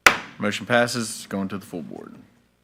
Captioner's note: gavel bangs